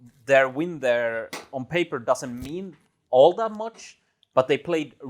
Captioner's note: none